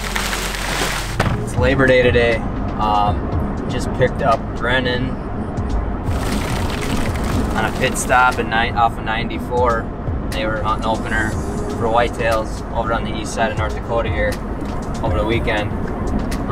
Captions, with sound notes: - It's labor day today. Just picked up Brandon. (ice dropping) - I hit stop a night off at 94, near Mount Opener for White-tails all around the east side of North Dakota here, over the weekend.